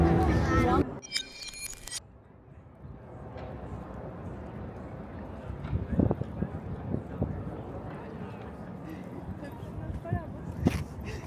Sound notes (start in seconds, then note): 1.0 electronic beeping; 8.7 people chattering